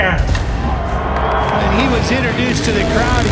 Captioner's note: crowd cheers